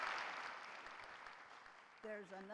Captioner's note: applause